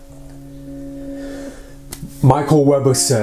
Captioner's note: inhales